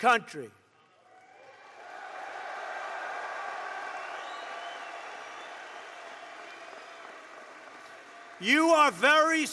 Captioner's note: applause